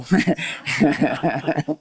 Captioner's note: laughter